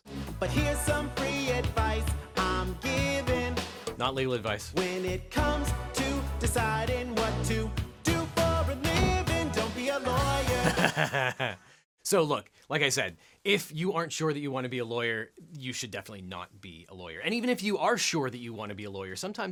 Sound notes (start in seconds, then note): 10.5 laughs